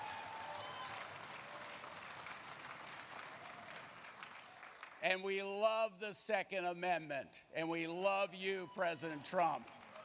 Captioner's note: applause